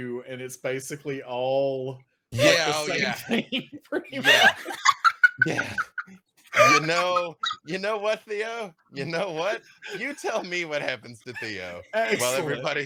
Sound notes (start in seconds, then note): 2.5 laughing